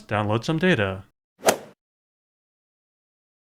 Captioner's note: swoosh